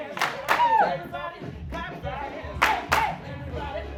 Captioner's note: all clapping hands; all clapping hands